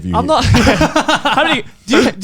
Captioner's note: laughs